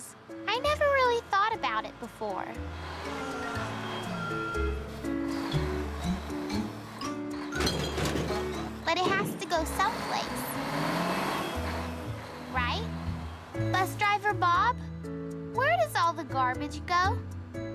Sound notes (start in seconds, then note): 4.8 truck beeping; 6.1 bottles clinking